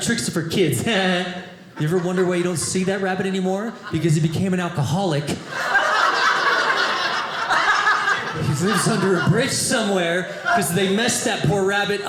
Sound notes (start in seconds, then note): 5.4 audience laughing